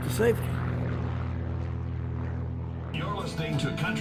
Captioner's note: plane engine whirs